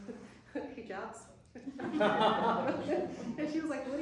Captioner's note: laughter